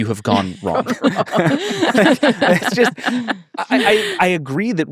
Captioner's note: everyone laughing